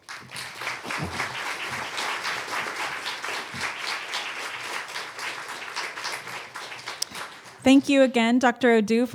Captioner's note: applause